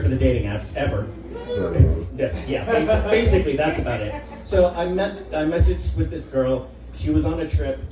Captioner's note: laughter